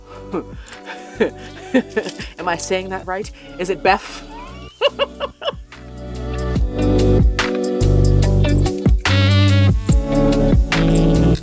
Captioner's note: giggling